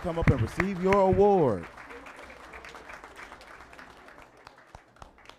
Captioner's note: applause